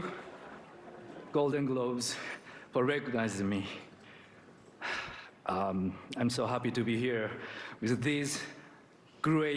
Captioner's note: laughter